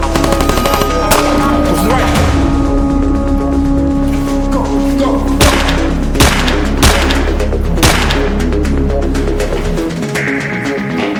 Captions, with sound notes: - Go to the right! - Go, go! (Gun firing) (Exciting music)